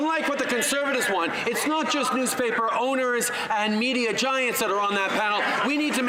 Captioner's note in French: voix de l'interprète